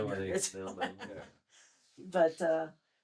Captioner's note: laughter